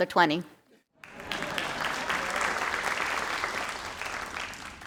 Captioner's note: crowd applauding